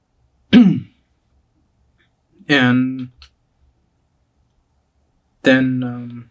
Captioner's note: clears throat